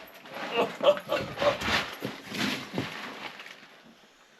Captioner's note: host chuckling